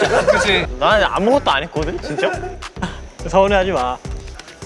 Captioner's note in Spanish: Se puso triste al decirlo